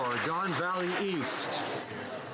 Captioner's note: some Applause